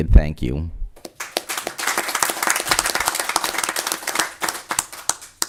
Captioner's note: audience applause